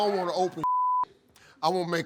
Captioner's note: beep